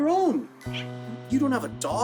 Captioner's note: Spike yips